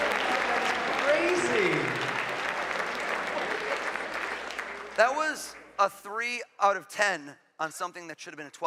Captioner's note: applause